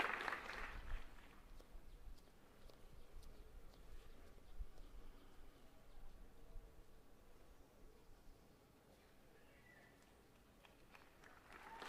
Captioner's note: applause